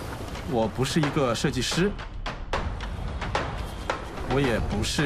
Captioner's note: non-english speech